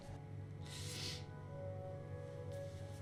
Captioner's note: sniff